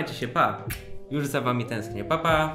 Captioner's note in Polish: cmok